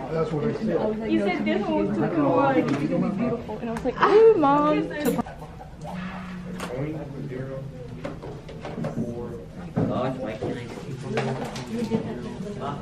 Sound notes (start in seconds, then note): 2.5 students talking